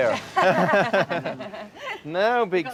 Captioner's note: laughs